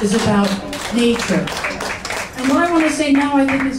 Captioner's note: audience applauding